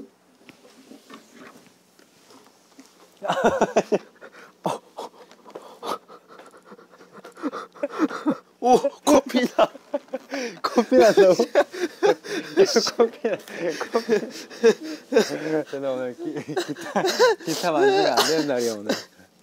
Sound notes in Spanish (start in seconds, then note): 2.7 Pow; 3.2 Jajaja; 5.7 Sollozando; 14.7 Jajaja